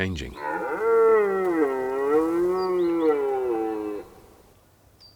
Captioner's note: bellowing